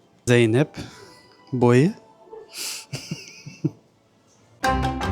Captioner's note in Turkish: ahahah